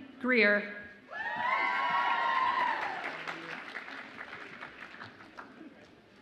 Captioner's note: audience applauds and cheers